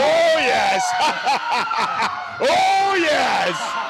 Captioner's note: laughs menacingly